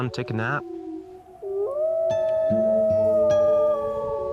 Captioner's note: howling